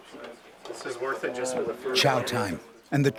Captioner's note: voiceover